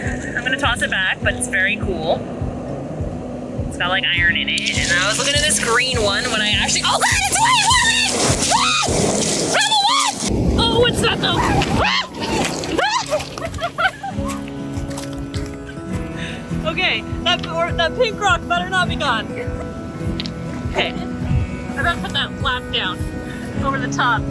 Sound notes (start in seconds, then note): 6.9 screaming; 11.5 screaming in background